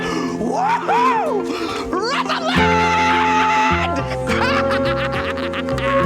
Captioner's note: laughing